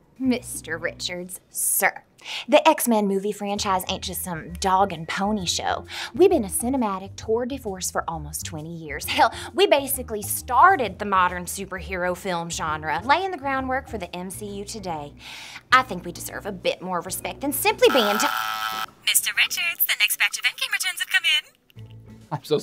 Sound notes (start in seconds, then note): 17.8 phone buzzes; 19.1 secretary Voice Over The Phone